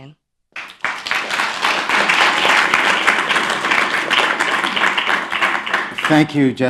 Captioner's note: applause